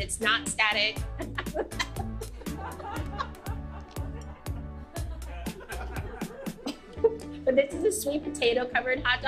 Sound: laughs

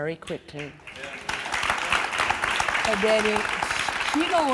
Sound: applause

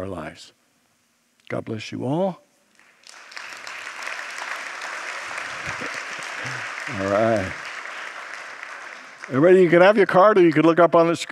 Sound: congregants applaud

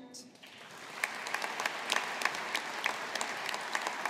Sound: audience applauding

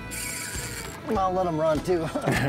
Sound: reel whirring; both chuckling

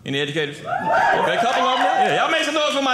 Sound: audience cheering

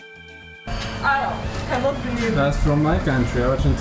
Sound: blissful music; woman speaking in foreign language

